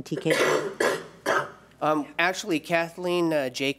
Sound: coughing

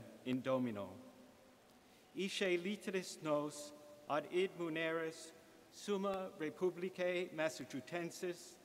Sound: reading latin

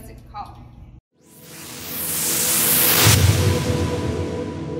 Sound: wooshing

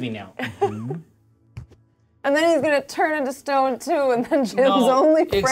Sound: laughs

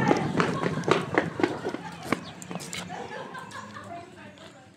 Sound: footsteps thudding; people laughing

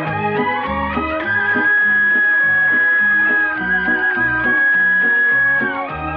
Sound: horn Honking

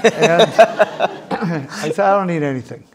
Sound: audience laughing

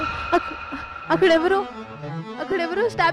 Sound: stammering

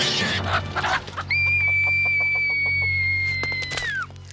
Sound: screaming

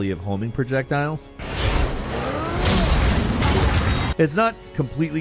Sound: homing projectiles blasting

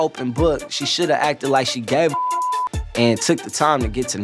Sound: beep

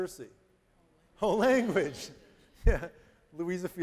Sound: chuckling

